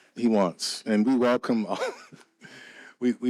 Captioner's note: laughs